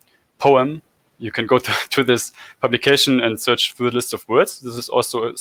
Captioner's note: laugh